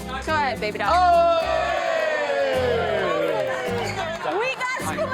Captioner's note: crowd cheers and applauds